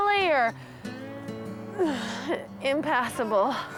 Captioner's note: sighg